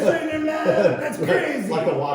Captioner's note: laughing